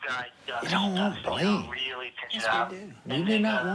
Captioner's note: on phone